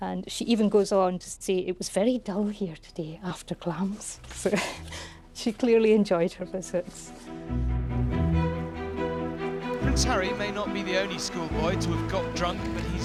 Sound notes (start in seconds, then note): 4.4 chuckles; 7.1 orchestral music